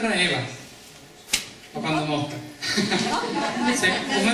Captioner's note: laughs